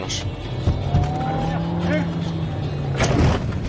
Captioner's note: banging